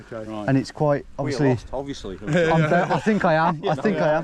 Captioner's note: laughs